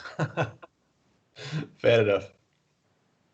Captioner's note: he laughs